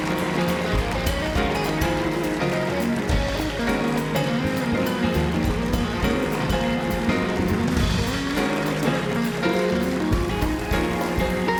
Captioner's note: cheers and applause; band playing